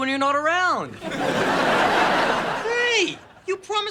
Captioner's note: audience laughing